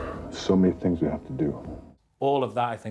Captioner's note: sighs